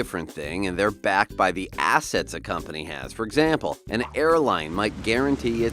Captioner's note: plane landing on runway